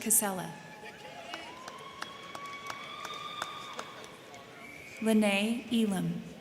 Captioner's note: crowd cheering; crowd clapping